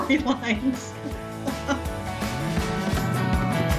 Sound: laughs lightly

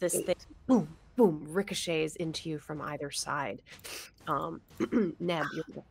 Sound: clears throat

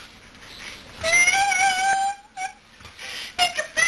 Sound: whimpering

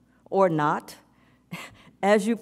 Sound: chuckles

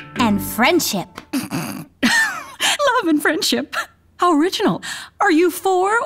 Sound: sniggers

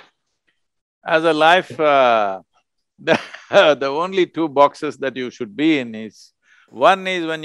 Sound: laughs

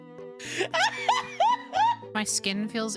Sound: laughter

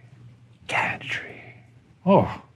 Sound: whispering

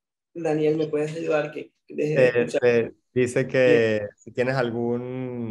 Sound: conversing in foreign language

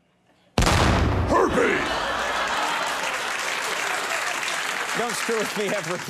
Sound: audience cheers

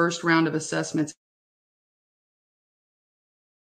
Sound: audio cuts out

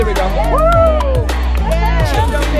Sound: upbeat music; cheers

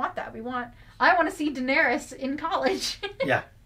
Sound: laughs

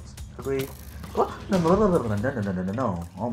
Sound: panic sounds again

